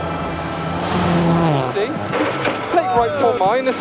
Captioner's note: car zooming